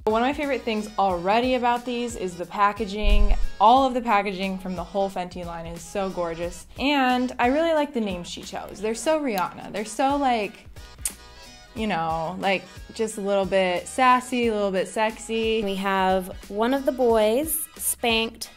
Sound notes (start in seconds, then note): 10.9 lip smack